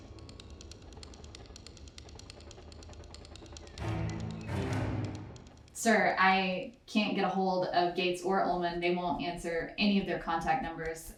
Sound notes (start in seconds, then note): 2.0 fire crackling